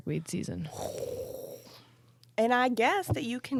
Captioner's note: exhaling